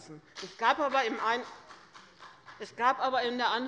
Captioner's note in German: Beifall der Abg